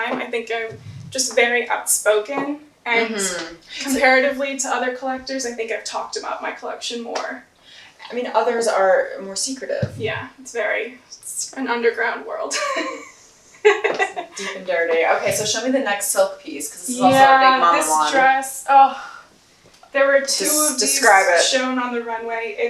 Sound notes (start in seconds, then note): 13.5 laughs